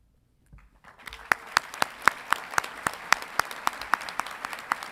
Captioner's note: audience clapping